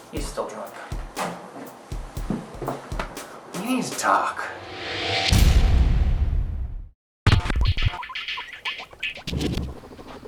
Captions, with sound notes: -He's still drunk. -We need to talk. [Guinea pig noises]